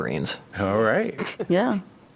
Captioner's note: laughter